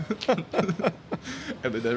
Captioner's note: laughter